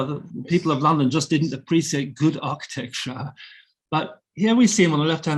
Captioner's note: chuckling